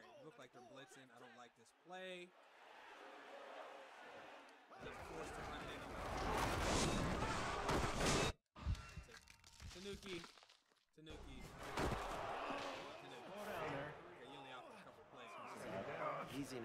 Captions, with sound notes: - Alright it looked like they're blitzin' I don't like this play. (cheering and yelling) - Tenuki, tenuki. (yelling) You're in the awful covered place.